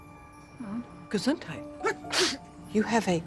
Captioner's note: sneezes